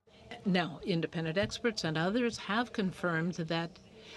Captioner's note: speaking French